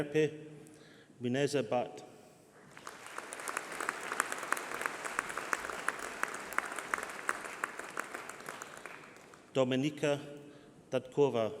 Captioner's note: applause